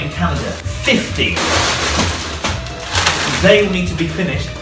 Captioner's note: wrappers crackling